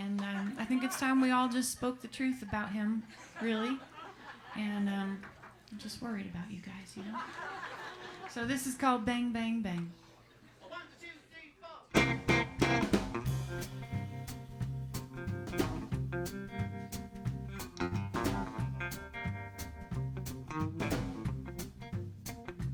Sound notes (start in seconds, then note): 5.3 laughter; 14.0 singing